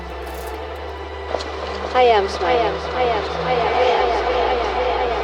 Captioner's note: echoing